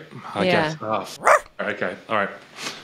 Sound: dog barks

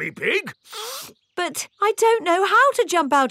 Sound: sniffs

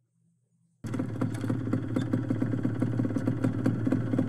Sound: sound of motorbike

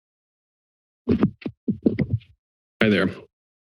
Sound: silence; microphone noise

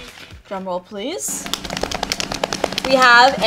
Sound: hands slapping

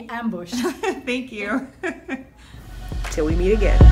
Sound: laughs

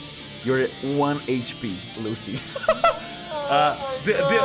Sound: laughs

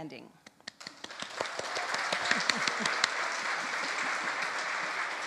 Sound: audience applauds

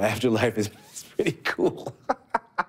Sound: laughs

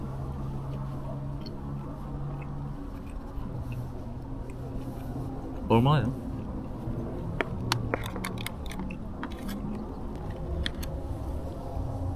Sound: chomp chomp

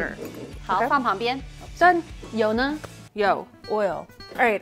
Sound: speaking in mandarin

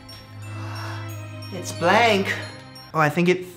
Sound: gasp

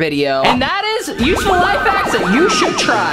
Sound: digital beeps

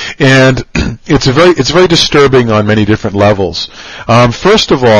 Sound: cough

